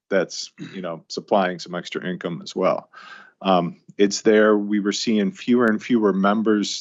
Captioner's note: clears throat